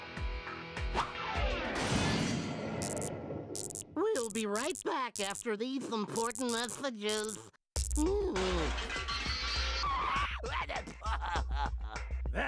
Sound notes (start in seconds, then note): 2.8 buzzing; 7.8 groaning; 10.0 laughing